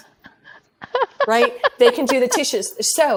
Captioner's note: laughing